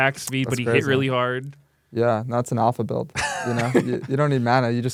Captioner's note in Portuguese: risos